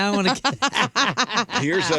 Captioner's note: laughing